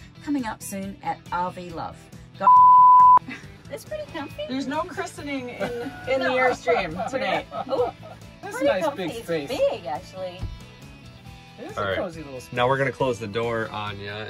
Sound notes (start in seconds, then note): 2.4 beep; 5.5 laughing; 8.2 joyful chatter